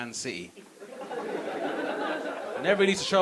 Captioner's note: audience laughing